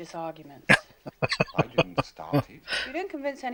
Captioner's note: laughing